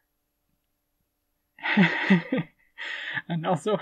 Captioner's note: laughing